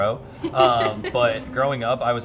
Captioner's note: laughing